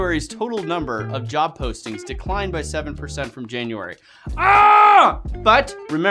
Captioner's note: screaming